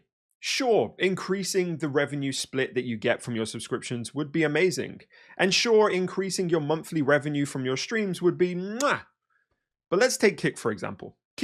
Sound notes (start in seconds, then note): 8.7 chef’s kiss